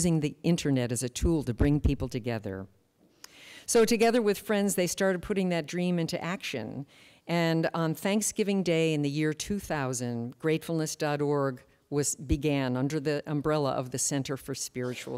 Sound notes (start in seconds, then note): none